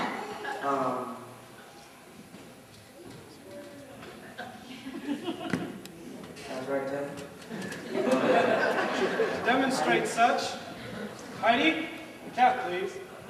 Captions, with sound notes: Um... (soft laughter) That's right, Tim. (laughter) To demonstrate such, Heidi? The cat, please.